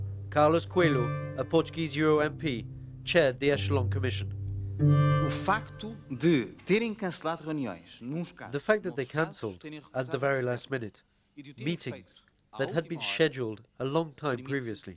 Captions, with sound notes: Carlos Coelho, a Portuguese Euro MP, chaired the Echelon Commission. [Portuguese spoken audio] The fact that they canceled at the very last minute meetings that had been scheduled a long time previously,